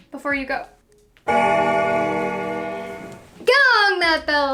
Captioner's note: bell ringing